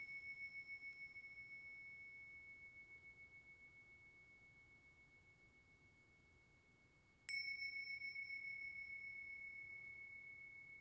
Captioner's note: bell ringing